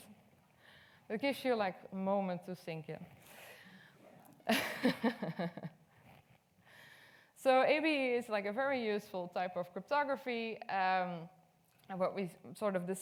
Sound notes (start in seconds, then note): 4.5 laughs